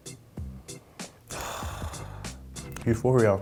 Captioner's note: sighing